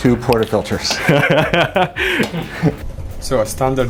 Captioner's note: laughing